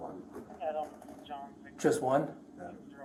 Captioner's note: radio chatter